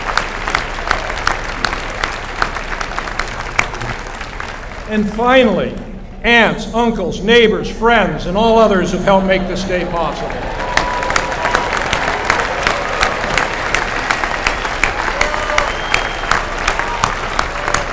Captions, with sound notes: And finally, aunts, uncles, neighbors, friends, and all others who have helped make this day possible. [APPLAUSE]